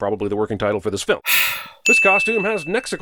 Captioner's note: sigh